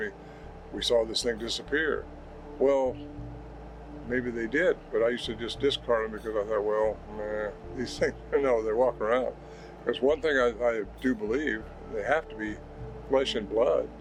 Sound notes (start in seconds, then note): 7.3 groans